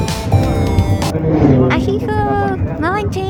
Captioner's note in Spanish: sonido de moto